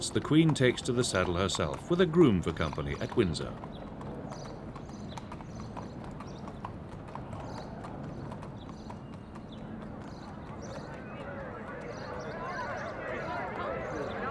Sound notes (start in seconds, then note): 4.1 birds chirping; 4.1 hooves clopping; 10.4 crowd chattering